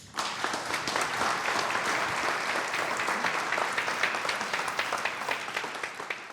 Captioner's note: applause